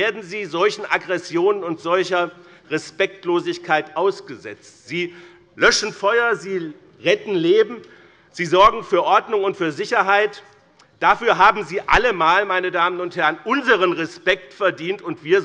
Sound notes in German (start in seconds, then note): none